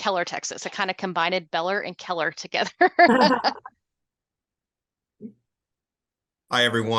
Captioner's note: laughter